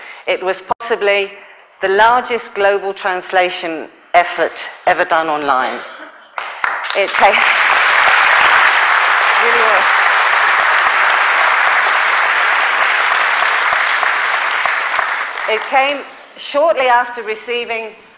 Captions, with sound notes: It was possibly the largest global translation effort ever done online. [Applause] It came shortly after receiving